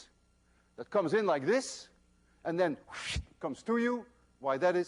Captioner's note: wssshhht